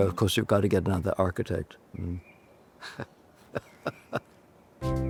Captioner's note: chuckles